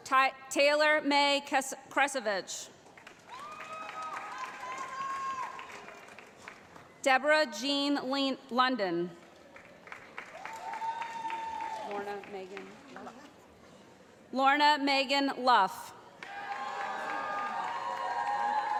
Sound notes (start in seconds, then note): 4.8 voiceover; 9.2 applause; 16.2 cheering